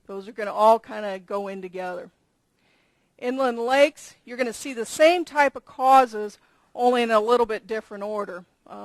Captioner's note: none